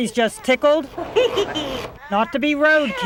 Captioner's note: Furby laughs